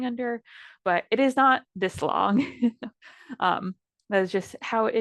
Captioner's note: chuckles